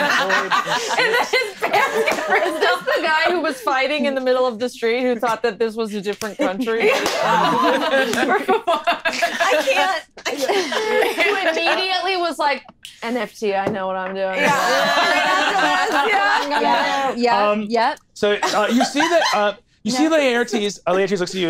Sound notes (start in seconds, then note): 0.0 laughing; 6.3 laughing